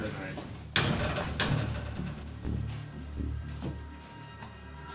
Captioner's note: jail door clangs